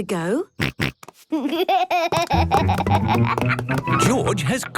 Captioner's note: snorts, giggles